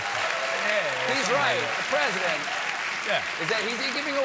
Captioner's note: applause